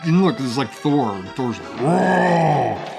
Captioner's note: growling